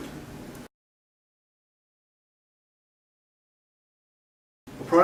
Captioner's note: silence